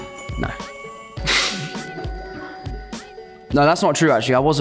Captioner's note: laughs